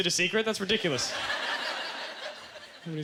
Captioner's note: audience laughter